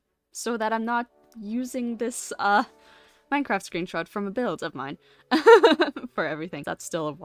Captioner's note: laughs